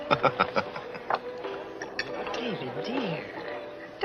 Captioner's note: Jerry laughs